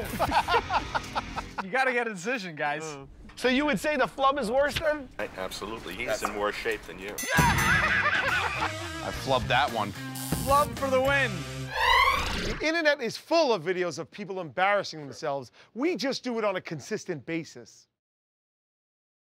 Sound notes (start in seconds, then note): 0.0 laughter; 7.2 laughs